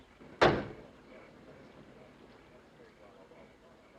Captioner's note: townsmen chattering